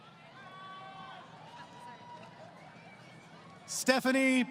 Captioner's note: crowd Cheering